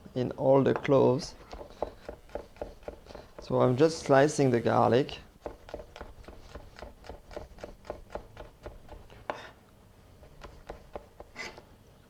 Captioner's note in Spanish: sonido rebanando